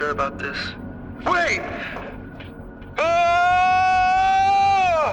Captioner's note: screaming